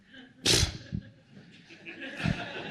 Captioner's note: puffs; laughter